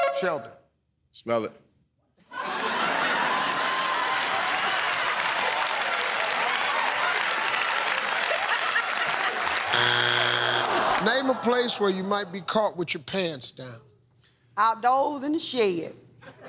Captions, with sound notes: Sheldon. Smell it. [ Laughter ] [ Cheers and applause ] [ Buzzer ] Name a place where you might be caught with your pants down. Outdoors in the shed.